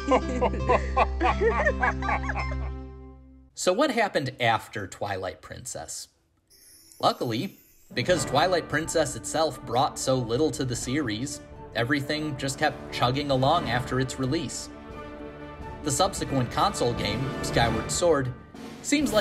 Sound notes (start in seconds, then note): 0.0 laughing